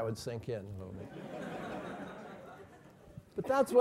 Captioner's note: laugh